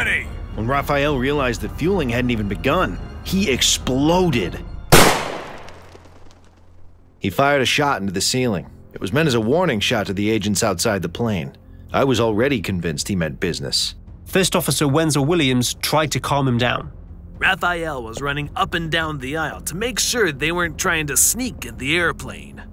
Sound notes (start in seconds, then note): 4.9 gunshot